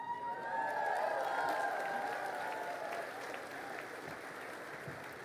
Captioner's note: crowd cheering and applauding